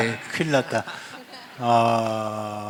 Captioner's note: laugh